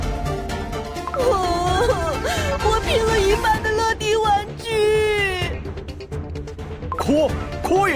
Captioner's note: sob sob sob